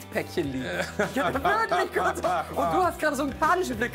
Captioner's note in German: Lachen